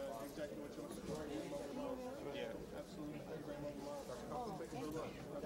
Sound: all continue murmuring

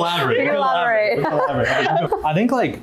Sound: laughter

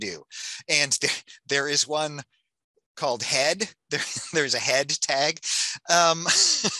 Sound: laughs

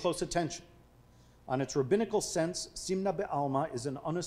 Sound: speaking foreign language

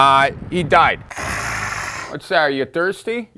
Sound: groaning

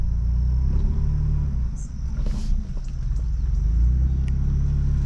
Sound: engine revving

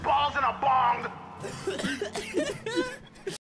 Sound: dying of laughter

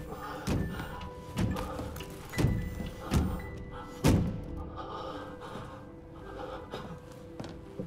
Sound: nervous pant

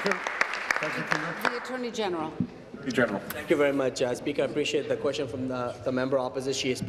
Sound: applause

